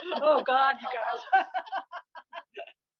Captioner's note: laughter